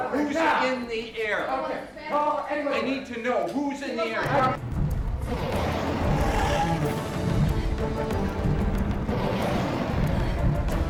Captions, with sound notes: - Who's in the air? I need to know. Who's in the air? (growling)